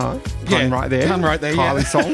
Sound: laughs

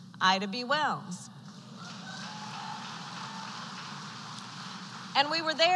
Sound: applause

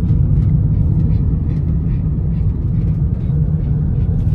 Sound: car and road noise

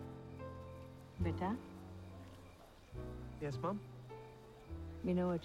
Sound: speaking in Punjabi

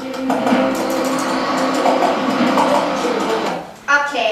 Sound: car rustling

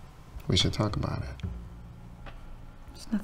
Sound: none

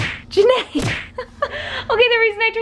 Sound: laughs

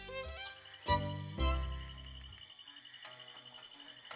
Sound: bugs chirping

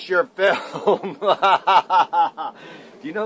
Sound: laughs loudly

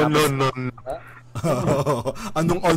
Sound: laughs like Patrick Star

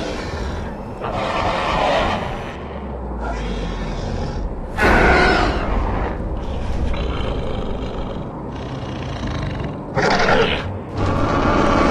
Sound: spinosaurus Growls

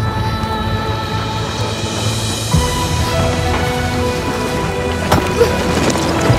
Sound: slab and pole falling on van, van drowning sound

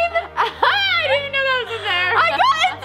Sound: laughing

